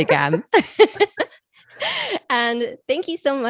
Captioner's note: both laughing